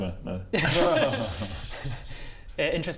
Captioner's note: unfooled laughter